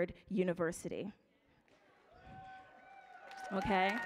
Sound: audience cheering

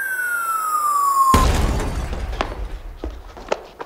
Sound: drop pod crashes

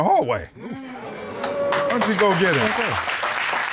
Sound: audience exclaims

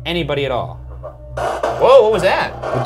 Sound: honey tone buzzing

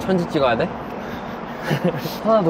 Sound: laughing

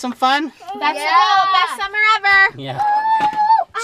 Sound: collective yeahs

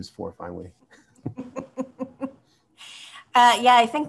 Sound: both laugh

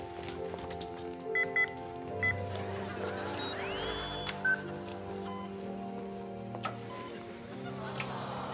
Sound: beeping

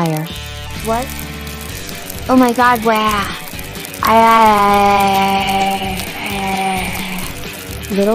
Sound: scream

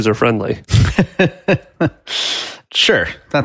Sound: laughs

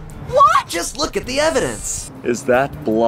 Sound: car voice

